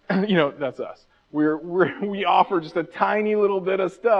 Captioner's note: clears throat